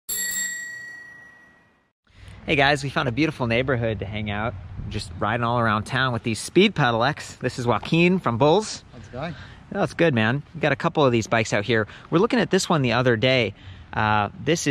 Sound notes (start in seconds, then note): 0.0 bike bell